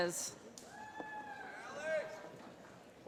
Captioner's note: cheering; voiceover